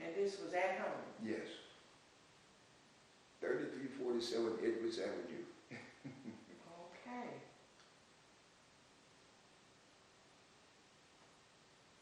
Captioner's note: laughs